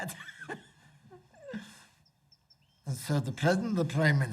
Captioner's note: laughs